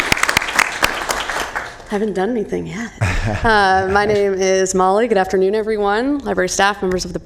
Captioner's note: applause